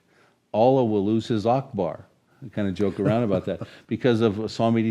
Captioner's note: chuckles